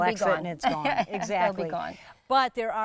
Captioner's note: laughing